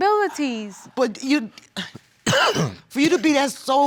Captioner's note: stammering